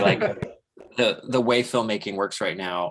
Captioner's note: laughs